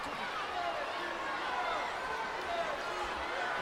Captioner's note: crowd cheering